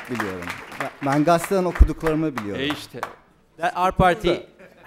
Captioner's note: non-english speech